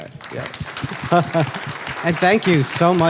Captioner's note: applause